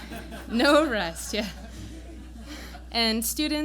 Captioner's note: laughter